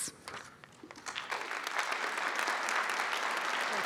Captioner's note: applause